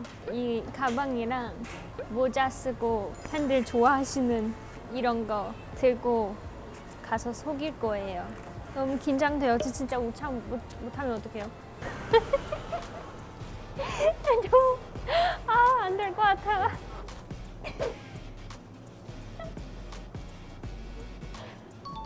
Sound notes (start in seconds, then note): 11.8 laughing